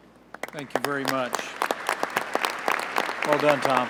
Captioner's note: applause